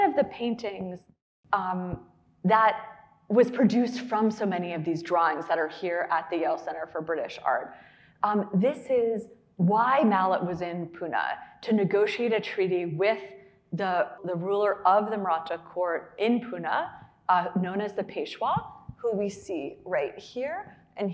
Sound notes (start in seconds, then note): none